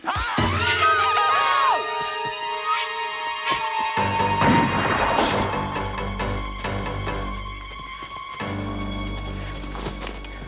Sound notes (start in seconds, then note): 0.0 man yelling; 0.0 Taryn screaming; 4.5 dramatic music; 4.5 gun firing